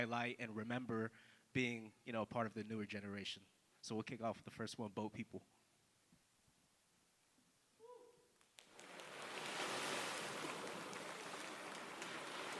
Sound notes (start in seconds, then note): 8.7 recording Of waves crashing